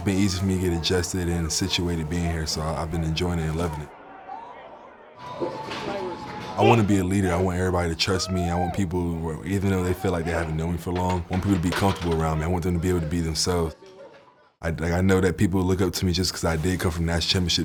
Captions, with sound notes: for me to get adjusted and situated being here. So I've been enjoying it and loving it. (group chattering) I want to be a leader. I want everybody to trust me. (player wooing) - I want people - who even though they feel like (group chattering) they haven't known me for long, I want people to be comfortable around me. I want them to be able to be themselves. I like, I know that people look up to me just cause I did come a National Championship team.